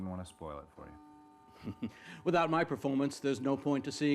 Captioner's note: chuckling